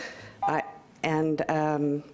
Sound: beep

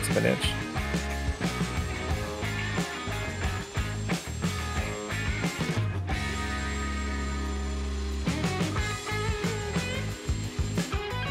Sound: rock music; drilling

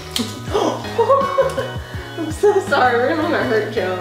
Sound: gasps

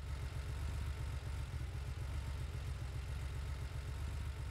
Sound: car engine running

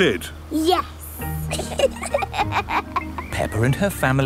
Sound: both laughing

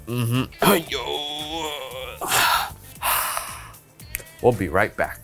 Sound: grunts

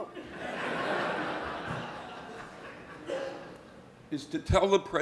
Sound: audience laughing

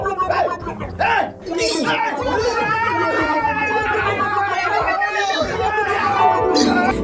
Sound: guardian screaming

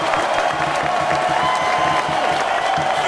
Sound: big cheers and applause

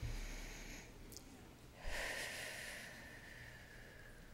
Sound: breathing deeply

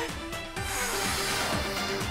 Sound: inhales; blowing

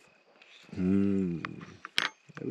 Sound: hums with joy

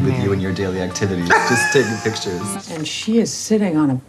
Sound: laughing

